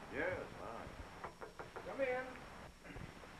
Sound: knock on door

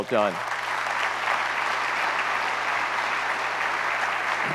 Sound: audience applauds

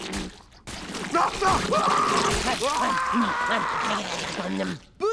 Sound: screaming

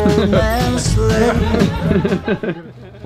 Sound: man laughs

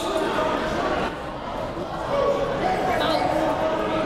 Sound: crowd talking

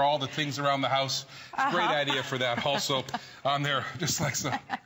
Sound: laughter

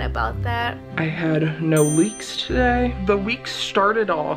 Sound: check dings

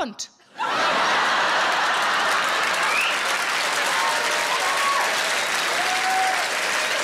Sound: audience laughing; audience applauding

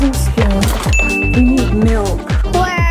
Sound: bell dings

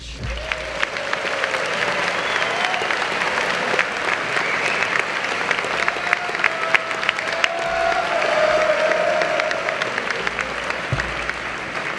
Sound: applause

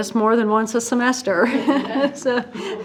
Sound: chuckles

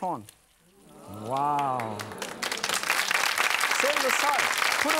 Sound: audience applauds

